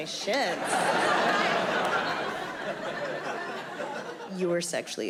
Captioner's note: audience laughing